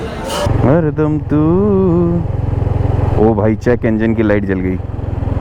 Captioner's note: humming a song